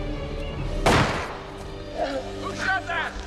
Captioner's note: bullet whizzes; shot blasts